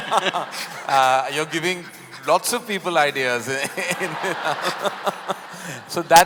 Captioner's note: laughter